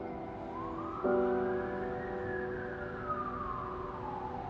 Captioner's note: sirens wailing